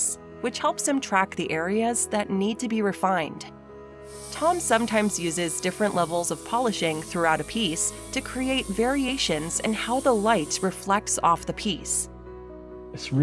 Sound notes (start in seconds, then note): 4.1 sanding sounds